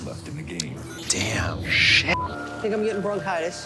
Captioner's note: beep